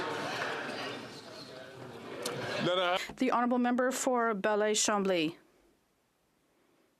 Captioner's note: some Applause